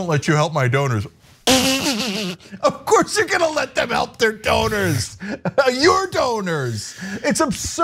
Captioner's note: laugh